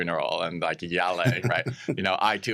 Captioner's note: chuckles